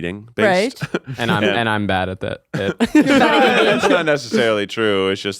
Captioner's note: all laughing